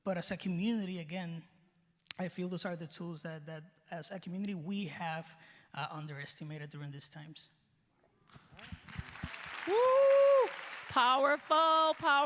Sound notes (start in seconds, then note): 8.5 cheers and applause